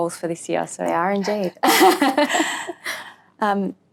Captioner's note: laughs